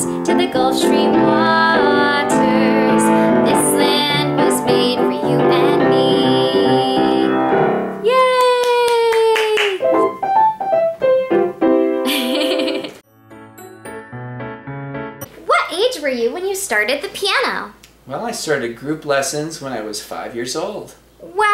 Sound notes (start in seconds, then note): 8.4 claps; 9.6 upbeat piano music; 12.0 laughs; 13.5 lively piano music